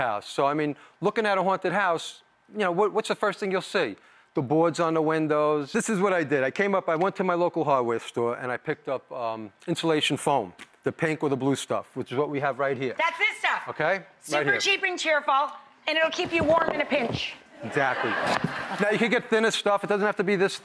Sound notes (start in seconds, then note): 17.6 laughter